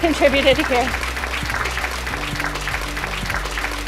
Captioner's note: applause